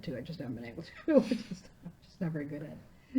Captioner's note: laughing